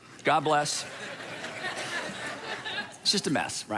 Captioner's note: congregation laughing